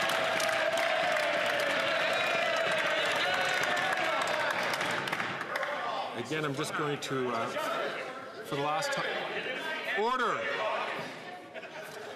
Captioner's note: some Applause